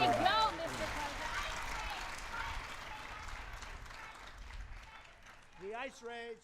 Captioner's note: audience clapping